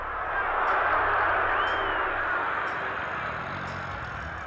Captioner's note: dog snoring